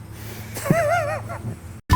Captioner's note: laughing